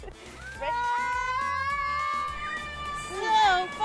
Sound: yelling

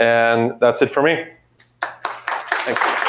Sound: applause

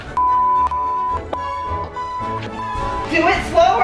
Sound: beep

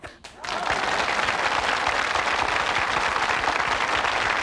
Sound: audience applauding

